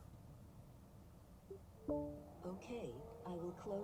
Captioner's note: car beeps